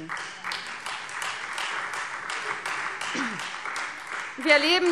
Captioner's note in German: Beifall Freie Demokraten